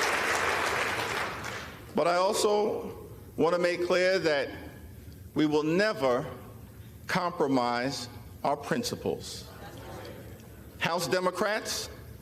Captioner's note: applause